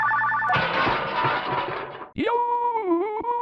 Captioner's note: crash!